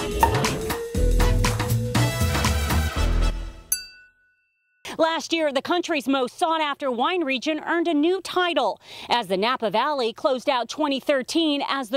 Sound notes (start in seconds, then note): 3.7 glasses clinking